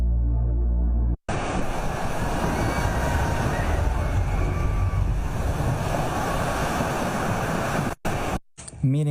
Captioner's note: tidal wave crash; screaming; foreign language